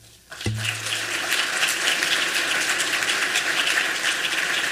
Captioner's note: applause